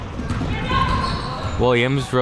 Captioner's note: none